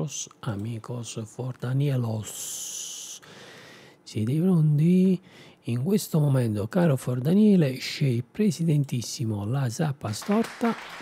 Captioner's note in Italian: Applauso